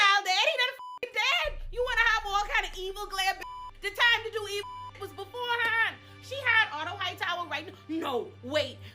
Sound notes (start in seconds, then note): 3.6 beep